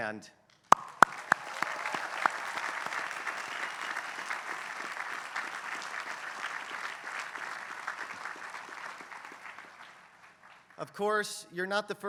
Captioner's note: applause